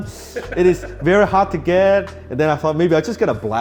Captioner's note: laughs